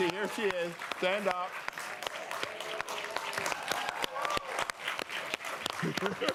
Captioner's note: cheering and applause